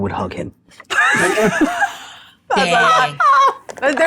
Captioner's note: participants laughing